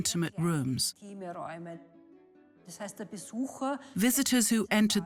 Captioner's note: speaks in foreign language